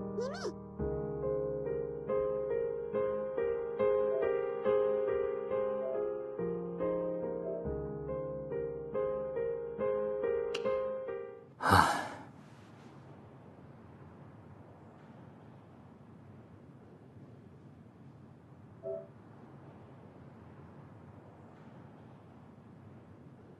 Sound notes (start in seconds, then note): 11.6 sigh